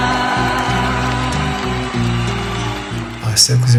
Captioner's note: audience ovates